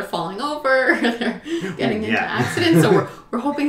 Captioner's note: laughs